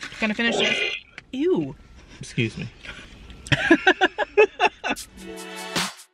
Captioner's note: belch